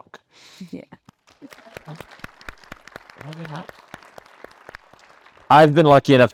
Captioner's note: attendees cheers and applauds